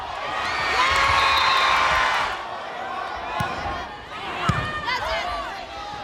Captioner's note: crowd and players cheering; whistle blows